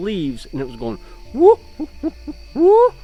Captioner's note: monkey noises